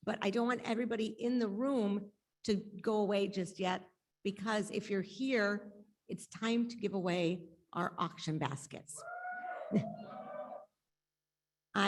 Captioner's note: audience cheers